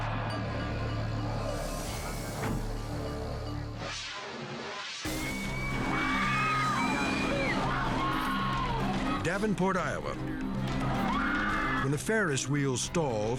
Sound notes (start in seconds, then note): 0.0 spectators scream; 0.2 crowd chatters; 5.0 crowd screams